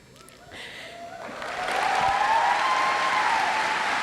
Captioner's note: audience applauds